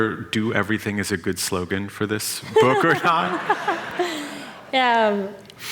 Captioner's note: laughter